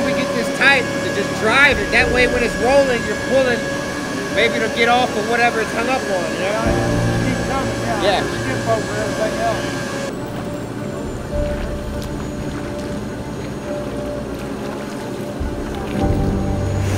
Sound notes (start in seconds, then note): 11.1 machinery scraping; 11.1 suspenseful music